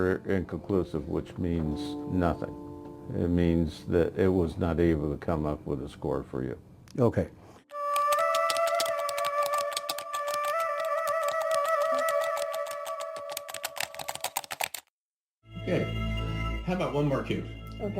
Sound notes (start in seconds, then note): 7.8 keys typing; 7.8 eerie music